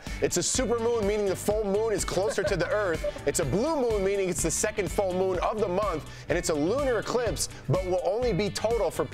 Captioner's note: laughter